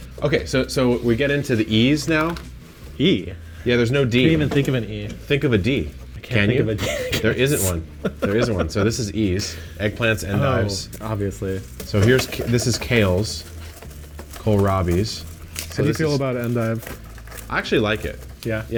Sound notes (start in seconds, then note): 8.4 laughs